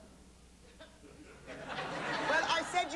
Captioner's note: laughter